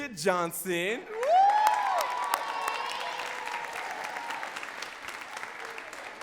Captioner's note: audience cheering and clapping